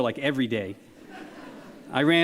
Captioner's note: audience laughs